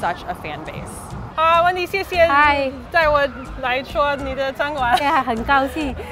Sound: speaking in foreign language

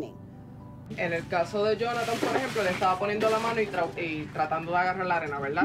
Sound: speaking a foreign language

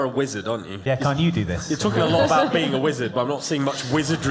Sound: Prudence laughs instead of burning everything down for once

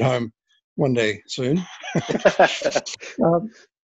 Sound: laughs

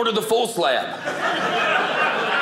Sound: audience laughing

